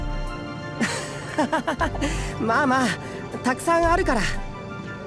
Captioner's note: laugh